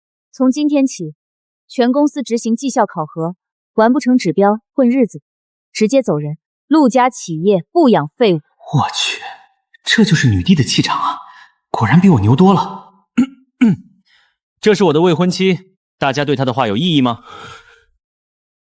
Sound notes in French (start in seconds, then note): 13.1 Tousse